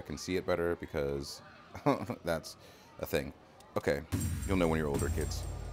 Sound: laugh

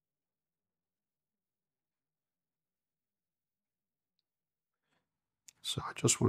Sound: silence

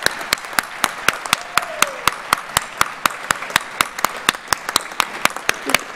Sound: audience cheers and applauds

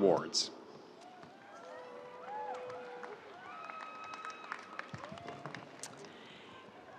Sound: audience cheering; audience applauding

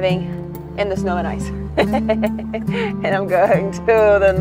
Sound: laughs

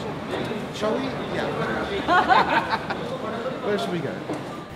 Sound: both laugh

